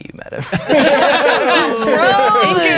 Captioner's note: all laughing